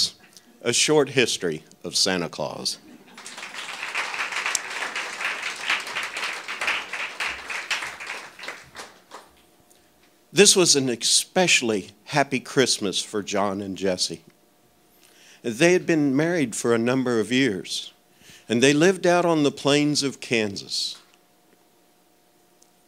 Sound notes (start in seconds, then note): 3.1 audience clapping